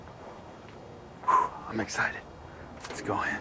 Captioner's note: exhales